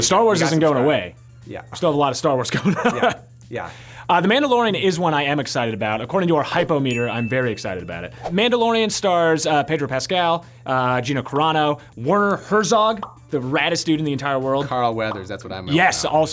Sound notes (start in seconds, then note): 2.6 laughs; 6.8 meter dings